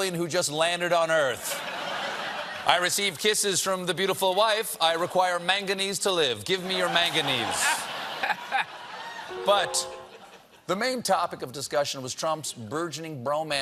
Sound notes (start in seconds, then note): 9.3 piano riff; 9.6 laughter